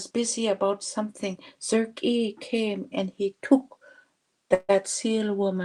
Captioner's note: speaking Indigenous language